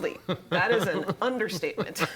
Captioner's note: laughter